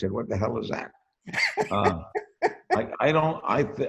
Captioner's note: laughs